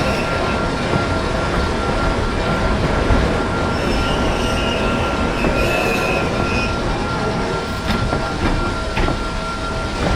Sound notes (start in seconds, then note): 0.0 brakes squealing; 5.4 couplers clanking; 9.2 brakes squealing, groaning